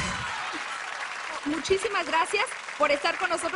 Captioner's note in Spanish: Risas